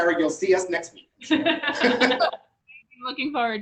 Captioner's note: laughing